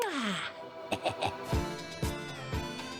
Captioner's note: gremlin giggle